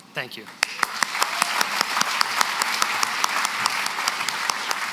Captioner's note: applause